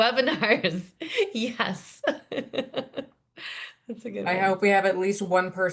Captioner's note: laughs